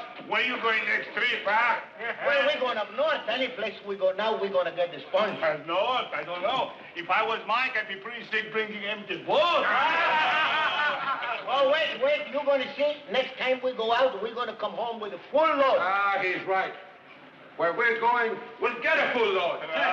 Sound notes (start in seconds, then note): 9.7 men laughing